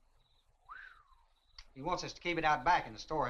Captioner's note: whistles in surprise